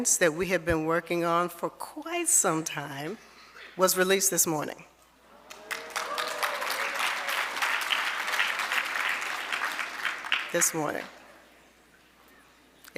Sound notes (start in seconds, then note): 5.3 audience applauding